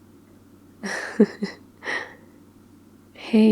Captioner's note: laughs